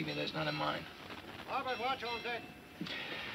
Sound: bell ringing

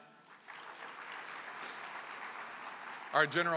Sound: applause

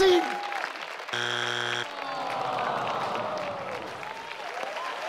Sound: buzzer buzzes; audience clapping

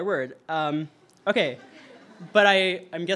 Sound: audience laughter

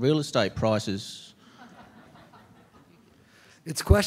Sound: laughter

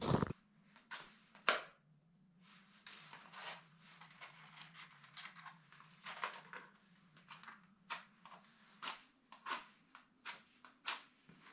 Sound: footsteps

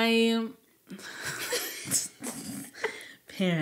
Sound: speakers chuckling

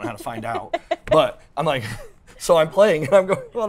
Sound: both laugh

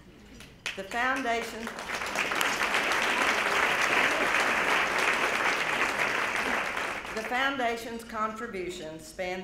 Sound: clapping

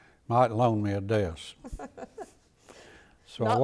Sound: laughing

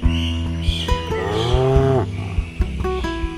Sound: cow noise

